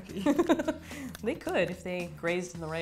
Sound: laughing

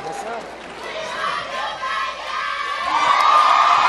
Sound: crowd shouting; cheering

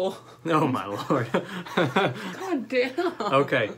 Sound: laughter

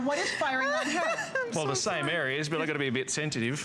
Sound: laughter; laughter

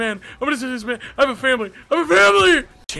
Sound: stammers

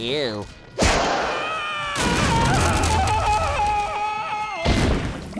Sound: screaming

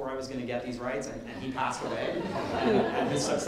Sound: audience laughing

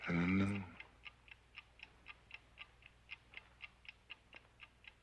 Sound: clock ticking

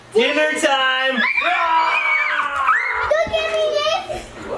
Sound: children screaming

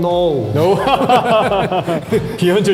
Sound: laughs

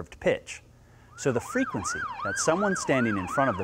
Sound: siren wailing

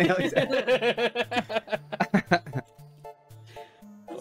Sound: laughing

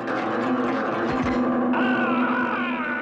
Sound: intense music; trap clangs; Chief Weasel screams

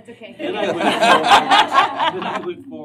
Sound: laughter

